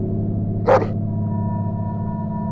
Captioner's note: dog bark